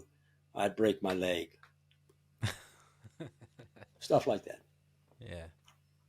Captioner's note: laughter